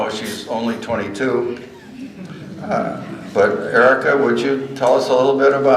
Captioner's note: laughter